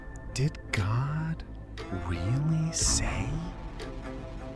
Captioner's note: hiss, barely audible